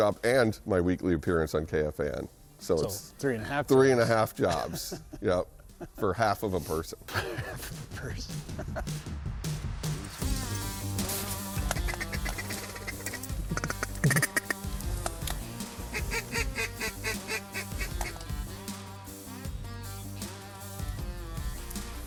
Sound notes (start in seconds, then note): 9.5 upbeat rock music; 11.6 duck call blowing; 15.9 duck quacking; 18.9 upbeat rock music